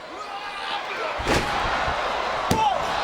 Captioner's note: Jericho yelling and thudding